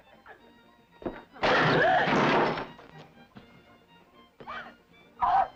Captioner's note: woman gasps; door thuds